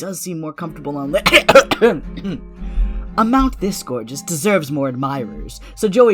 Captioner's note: cough cough cough